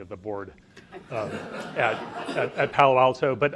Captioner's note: audience laughs